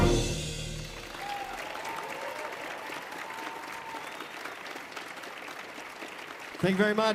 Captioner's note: audience cheering; audience applauding